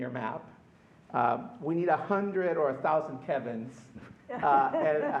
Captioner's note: laughter